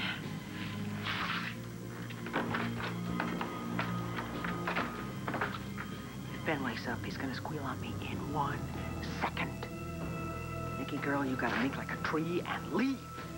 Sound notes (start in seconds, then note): 9.0 normal voice